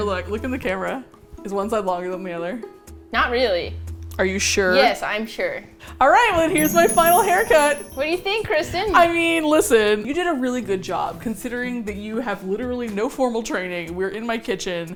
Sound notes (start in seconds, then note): 6.5 twinkly sounds